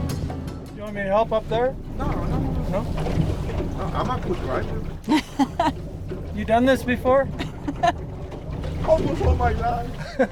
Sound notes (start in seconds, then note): 5.0 laughs